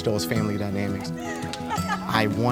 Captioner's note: woman laughs